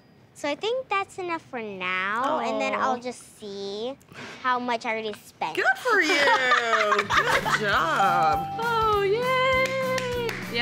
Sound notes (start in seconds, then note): 6.0 laughs; 9.5 claps